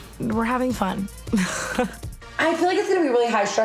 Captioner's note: laughs